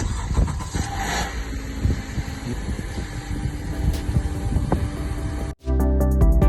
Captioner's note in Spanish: Motor encendiendo